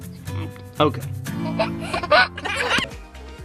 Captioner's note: giggling; cheerful theme music